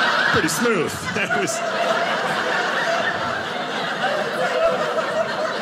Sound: audience laughing

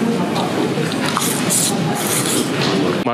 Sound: slurp

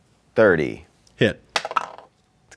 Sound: dice clatter

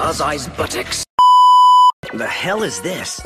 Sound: static sound beep

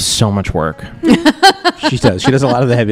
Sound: laughs

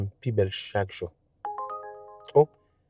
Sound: phone ringing

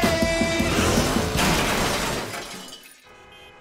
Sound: clanking; honking

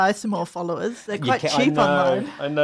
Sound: laughs

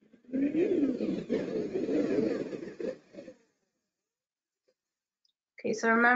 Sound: swirling beeping and whirring

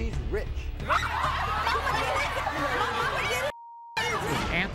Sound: women clamoring

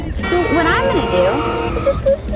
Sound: car honks

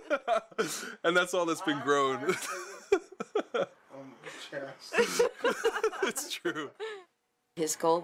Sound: laughs; all laugh

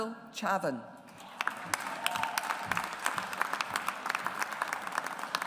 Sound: audience applauds

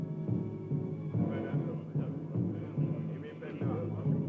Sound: crowd chatters

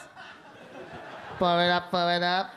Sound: audience laugh

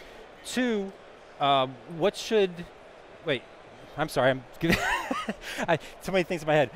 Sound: laughs

